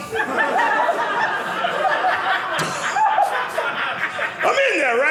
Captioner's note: audience laughing